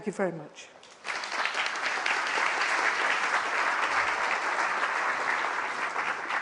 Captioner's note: applause